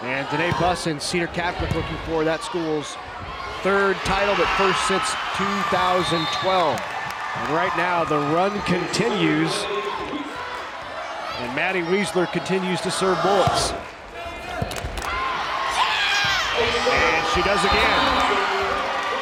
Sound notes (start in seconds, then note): 5.6 crowd and players cheering; 16.1 crowd and players cheering